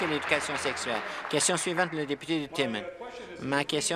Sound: applause

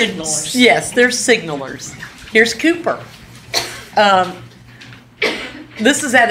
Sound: laughs

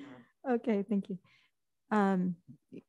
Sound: chuckles

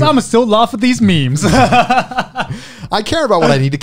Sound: everyone laughs

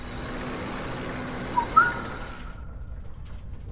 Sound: whistle

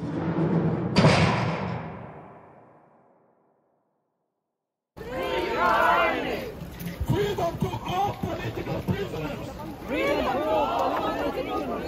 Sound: chanting

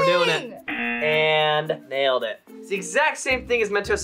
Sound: buzzer rings

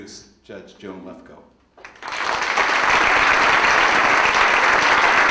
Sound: audience applauding

